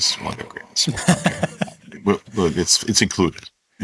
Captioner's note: laughs